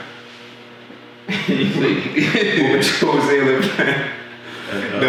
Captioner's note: laughing